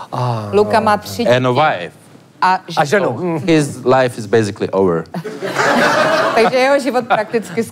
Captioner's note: laugh